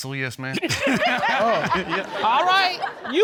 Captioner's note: all laughing